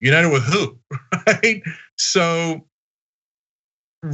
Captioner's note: laugh